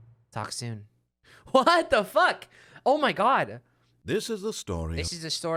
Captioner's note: laughing